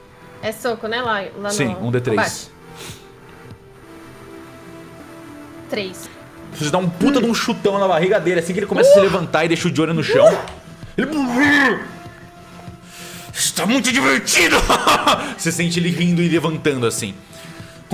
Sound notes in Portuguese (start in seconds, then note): 14.4 risadas